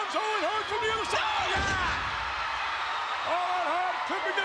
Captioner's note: spectators cheering